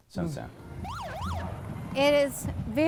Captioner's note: siren blares